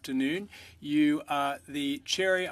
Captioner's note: speaking French